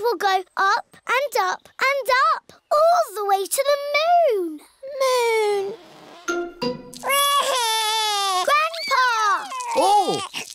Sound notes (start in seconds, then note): 7.0 wails